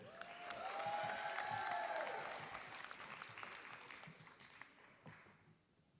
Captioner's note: applause